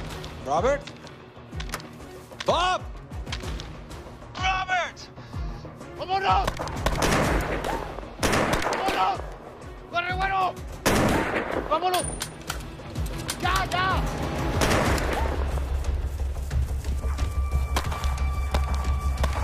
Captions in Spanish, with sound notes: - ¿Robert? ¡Bob! ¡Robert! - ¡Vámonos! [Disparos] ¡Vámonos! ¡Corre, güero! ¡Vámonos! ¡Ya, ya! [Disparo]